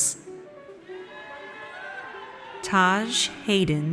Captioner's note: audience cheers